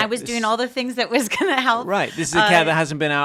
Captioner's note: laughing